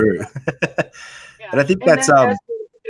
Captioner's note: laughs